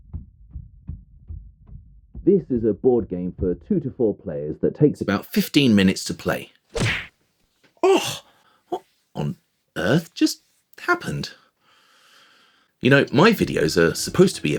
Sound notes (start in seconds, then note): 6.7 punch sound